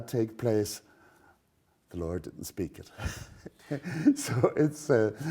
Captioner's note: laughs